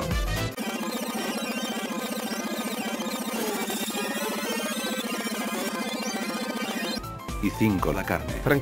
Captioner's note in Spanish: Sonido de rebobinado